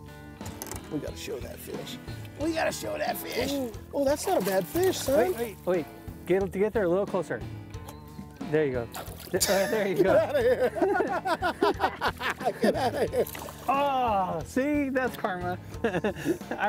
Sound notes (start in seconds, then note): 9.4 both laughing